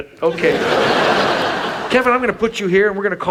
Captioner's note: audience laughs